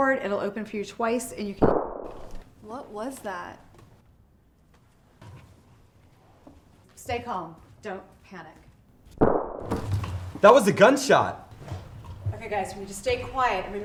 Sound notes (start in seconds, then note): 1.6 gun shot; 9.2 gun shot